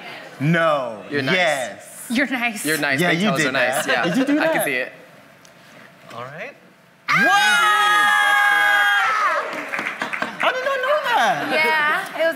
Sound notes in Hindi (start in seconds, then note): 7.0 चिल्ला; 7.1 वाहवाही